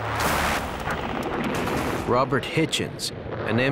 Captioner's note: guns firing